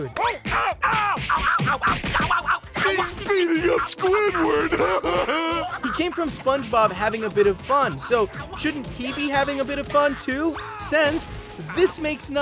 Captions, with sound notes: Ooh! Ow! Ow! Ow! Ow! Ow! Ow! Ow! He's beating up Squidward! [laughing] He came from SpongeBob having a bit of fun. So shouldn't he be having a bit of fun, too? Since this makes none.